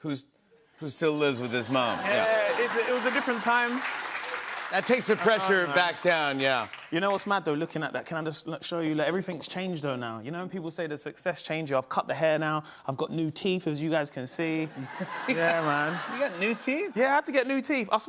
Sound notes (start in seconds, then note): 2.1 applause